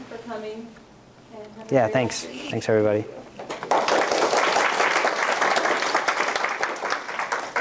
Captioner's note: applause